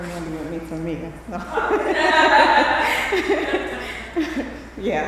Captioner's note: laughter